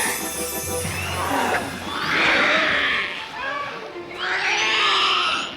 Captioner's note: mystical chimes; creature shrieks; creature screeches